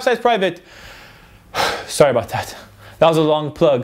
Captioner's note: sighs